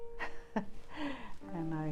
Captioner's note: laughs